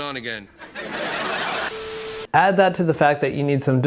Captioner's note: audience laughing